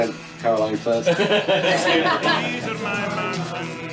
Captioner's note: laughter